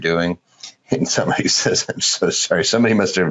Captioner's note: laughing